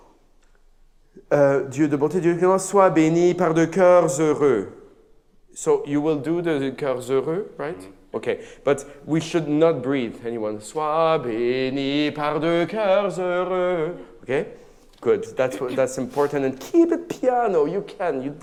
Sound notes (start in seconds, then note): 2.2 speaks in a foreign language; 11.1 sings in a foreign language